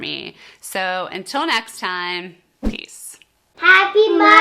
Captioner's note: air whooshing